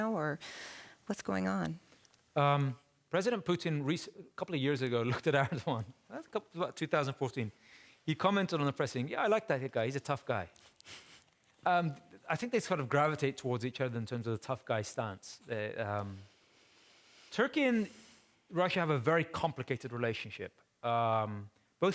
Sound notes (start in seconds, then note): 5.8 chuckling